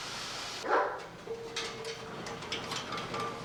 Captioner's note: dog barking